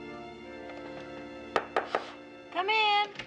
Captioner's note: knocking on door